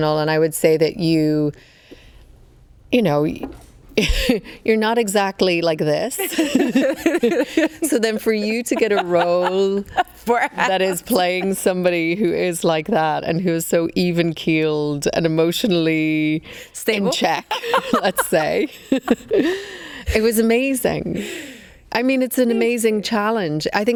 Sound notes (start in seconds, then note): 6.1 laughs; 6.2 both laughing; 16.9 laughs